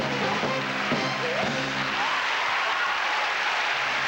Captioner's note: applause